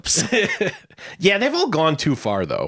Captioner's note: laughing